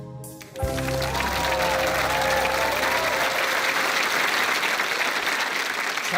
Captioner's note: cheering and applause